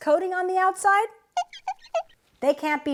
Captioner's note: squeak! squeak! squeak!